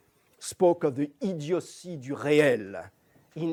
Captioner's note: non-english